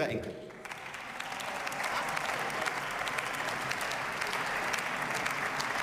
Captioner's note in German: Beifall